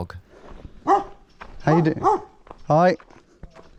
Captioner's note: dog barks